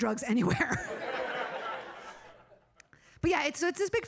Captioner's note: audience laughing